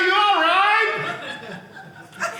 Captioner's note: audience laughing